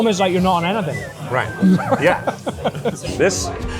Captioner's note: laughs